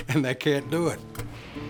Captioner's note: guitar music; laughing